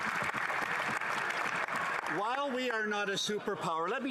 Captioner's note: some Applause